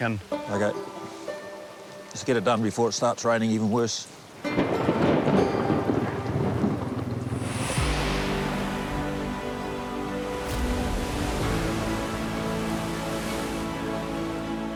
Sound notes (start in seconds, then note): 4.6 thunder booms; 6.1 inspiring music